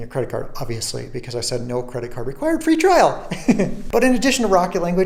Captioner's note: laughs